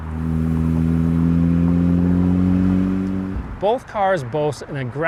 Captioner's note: engine revving